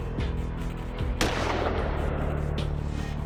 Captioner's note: gun fires